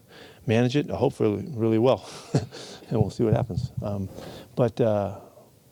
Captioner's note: laughs